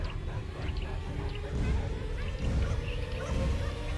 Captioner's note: dogs barking; tense music